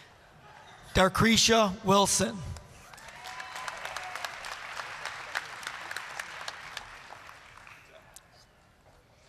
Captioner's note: applause